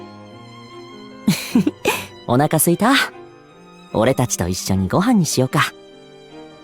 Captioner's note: chuckle